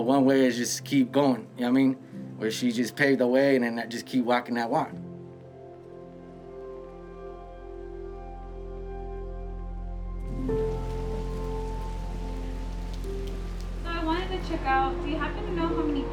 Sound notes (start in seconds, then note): 10.2 rain falling